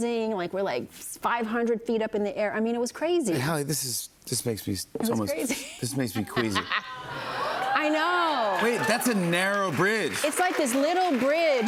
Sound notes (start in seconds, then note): 5.4 laughs; 6.9 audience cheers